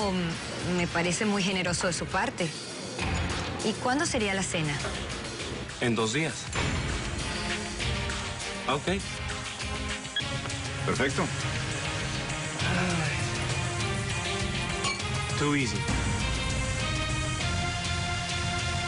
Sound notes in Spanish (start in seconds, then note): 10.1 Bip; 14.8 Chocan los vasos